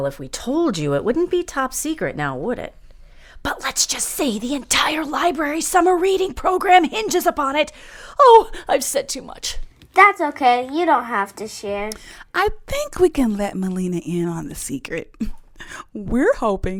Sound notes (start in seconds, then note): 2.8 whispering